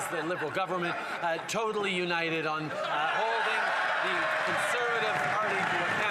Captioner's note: some Applause